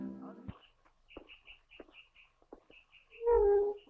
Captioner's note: birds chirping